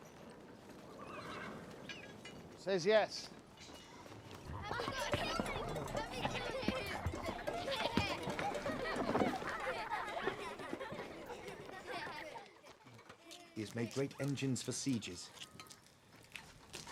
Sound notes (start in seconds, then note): 8.6 children laughing